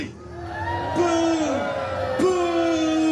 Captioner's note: guests booing